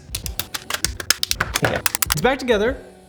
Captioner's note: controller parts snapping together